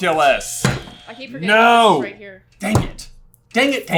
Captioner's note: buzzer